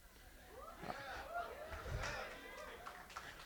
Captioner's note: cheering; applause